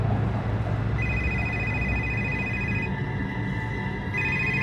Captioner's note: phone rings